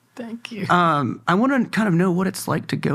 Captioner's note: laughs